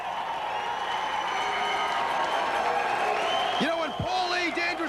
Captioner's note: crowd cheering